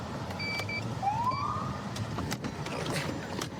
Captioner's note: siren chirps